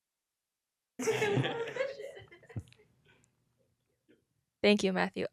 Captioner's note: laughing